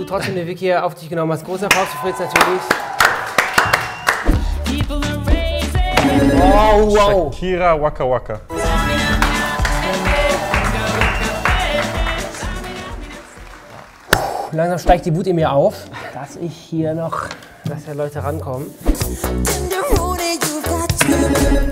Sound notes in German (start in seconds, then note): 8.5 Dynamische Musik; 12.2 Applaus; 13.9 Stöhnen